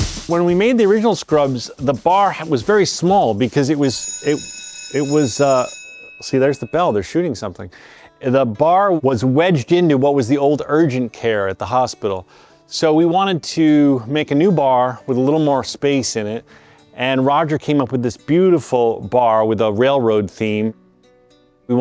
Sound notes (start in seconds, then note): 3.8 phone ringing